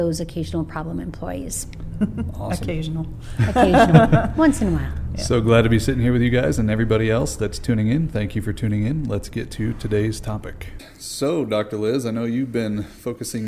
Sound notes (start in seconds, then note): 3.1 laughing; 3.3 laughter